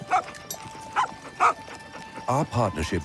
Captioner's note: barking